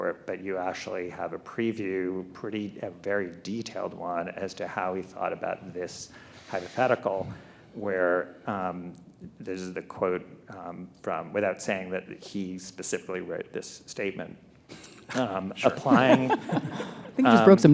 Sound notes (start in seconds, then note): 14.8 laughs